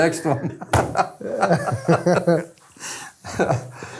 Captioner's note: both laughing